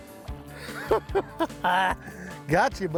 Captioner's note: laughs